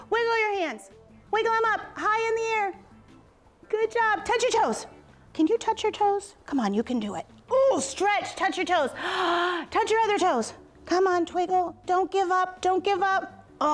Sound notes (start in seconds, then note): 8.9 gasps